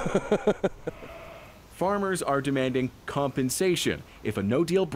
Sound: laughter

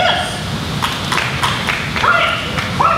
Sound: clapping

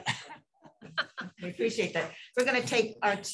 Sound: laughter

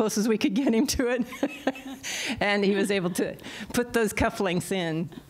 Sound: laughter

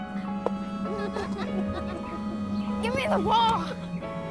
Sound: laughing in distance

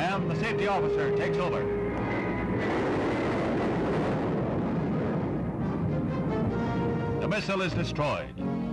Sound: explosion

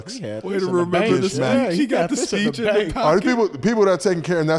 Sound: group talking

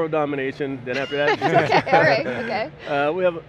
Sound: laughter

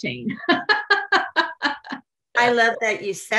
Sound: laughs

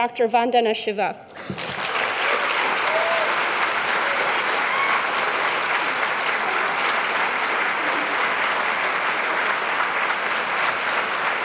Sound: applause

